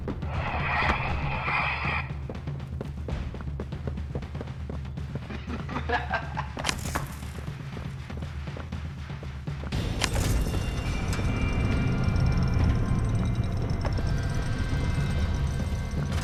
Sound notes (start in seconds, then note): 5.2 laughter